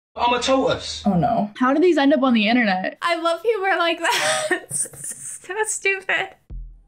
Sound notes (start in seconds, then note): 4.0 laughs